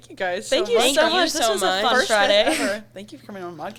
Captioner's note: everyone chattering